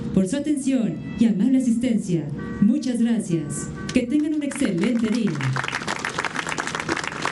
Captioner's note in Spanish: aplausos